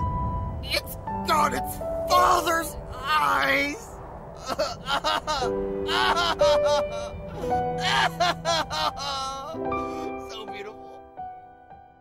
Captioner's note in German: schluchzt